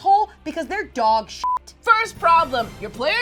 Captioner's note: beep